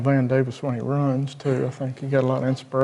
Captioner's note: chuckling